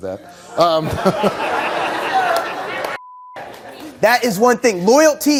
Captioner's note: audience laughing